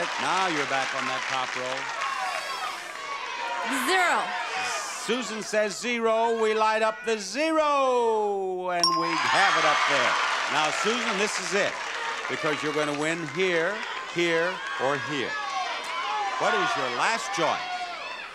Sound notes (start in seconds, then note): 1.7 audience shouting; 9.2 audience applauding; 9.2 audience cheering; 18.1 audience shouting